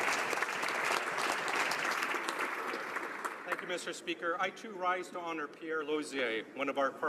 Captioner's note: applause